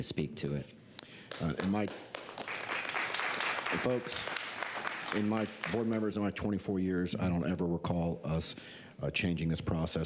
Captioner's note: applause